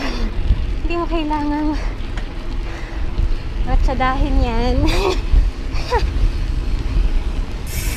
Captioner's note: laughs